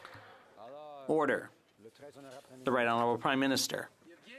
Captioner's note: some Applause